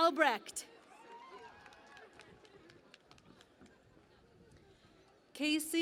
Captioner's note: cheering and Applause